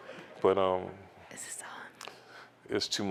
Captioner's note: whispering